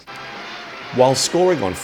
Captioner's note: audience applauds